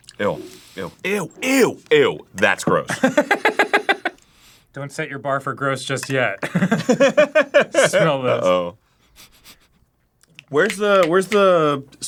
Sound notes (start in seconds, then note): 9.0 sniffs like a dog right in your ear